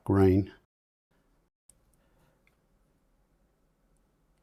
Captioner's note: silence